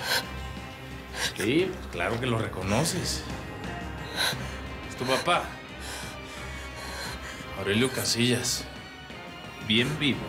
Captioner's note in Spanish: sollozos